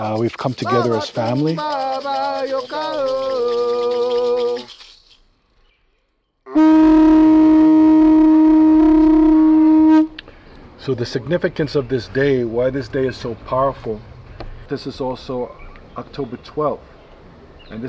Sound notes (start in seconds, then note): 2.1 singing in foreign language; 6.5 horn blares